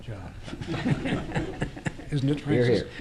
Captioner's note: laughter